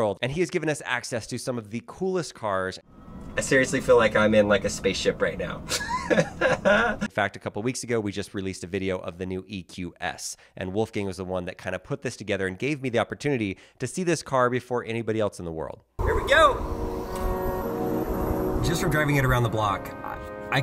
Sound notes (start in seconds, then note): 5.7 laughing; 16.0 engine revving; 18.4 upbeat music